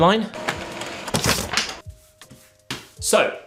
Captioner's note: copy machine whirring